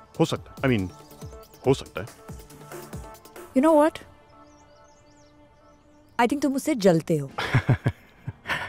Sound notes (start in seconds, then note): 4.5 Birds chirping; 7.4 Giggling